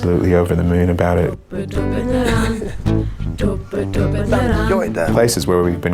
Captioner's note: chuckles